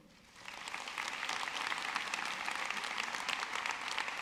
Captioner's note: audience clapping